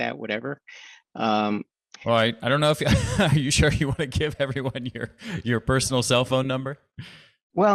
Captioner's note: chuckles